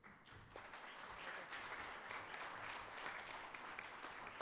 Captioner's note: audience applauds